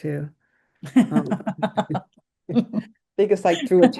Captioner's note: laughs